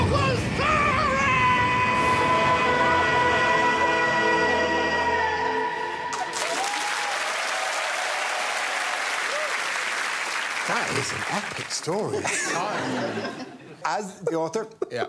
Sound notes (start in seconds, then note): 6.2 screaming